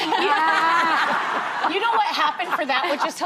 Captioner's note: laughter